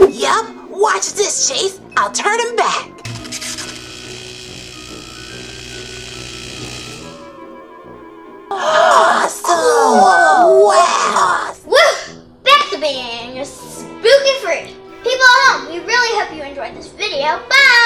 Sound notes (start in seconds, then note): 3.0 laser sounds